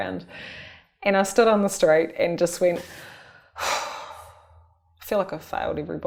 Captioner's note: sighs